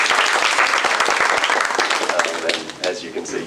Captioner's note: applause